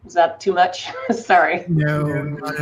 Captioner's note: laughs